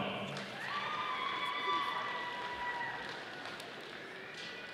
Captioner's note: audience applauding